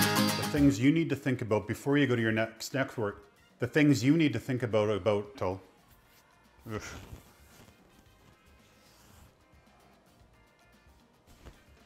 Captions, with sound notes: The things you need to think about before you go to your next network, the things you need to think about till... (man groaning) (upbeat music fading out)